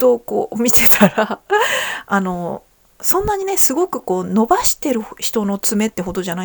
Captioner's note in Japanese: 笑い